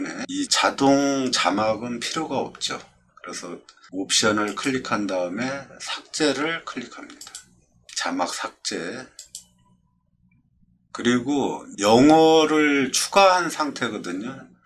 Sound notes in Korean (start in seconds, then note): 9.1 클릭